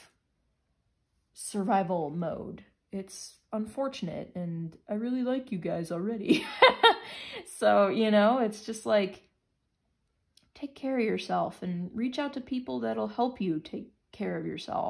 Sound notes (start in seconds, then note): 6.2 laughter